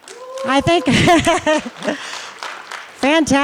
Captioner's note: applause